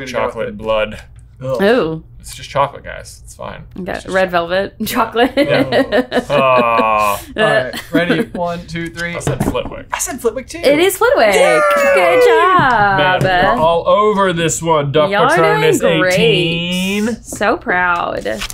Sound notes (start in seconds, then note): 6.4 groans; 11.3 cheering